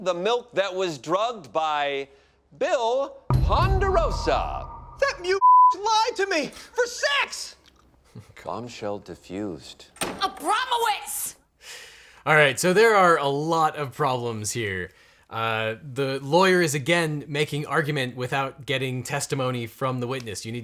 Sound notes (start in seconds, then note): 5.9 bleeping sound